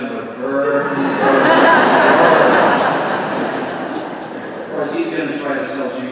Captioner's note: congregation laughing